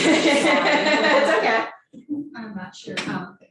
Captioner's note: laughs